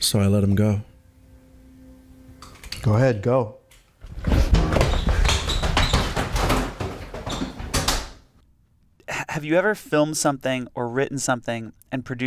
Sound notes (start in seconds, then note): 4.0 racing footsteps